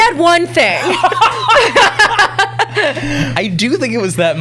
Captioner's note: laughter